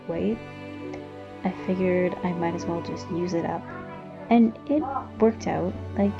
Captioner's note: kids in background